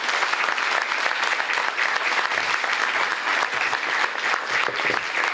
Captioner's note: applause